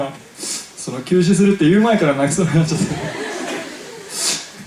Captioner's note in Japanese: 泣笑